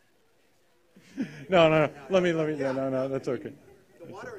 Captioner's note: laughter